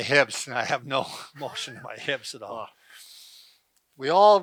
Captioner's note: laughs